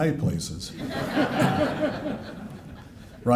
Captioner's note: laughter